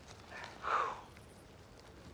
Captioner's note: exhales